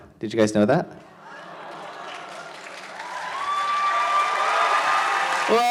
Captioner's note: audience cheers